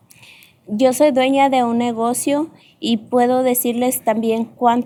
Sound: speaking spanish

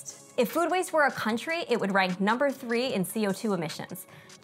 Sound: none

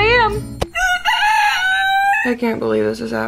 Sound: cork crowing

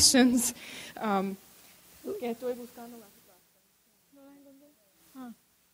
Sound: speaking in Spanish

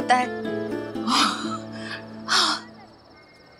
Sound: sighs

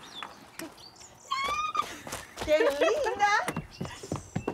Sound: squeals

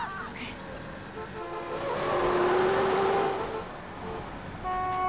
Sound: tires screeching; horn honking

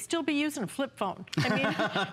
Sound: laughter

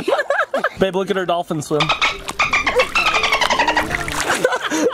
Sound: laughing; laughing

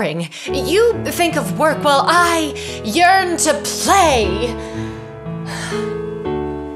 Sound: exhales

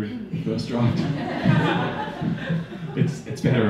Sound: audience laughing

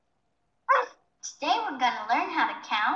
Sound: computer voiceover; dog barks

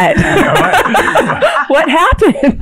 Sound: all laughing

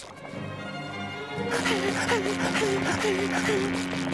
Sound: panting; buzzing

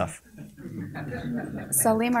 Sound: soft laughter

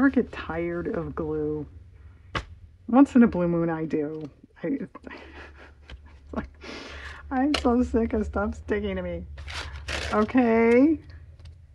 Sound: laughs

